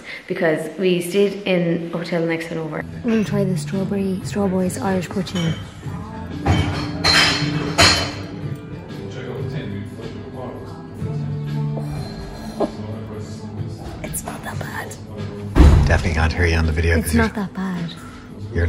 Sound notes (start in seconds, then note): 6.9 chattering in pub; 12.0 groans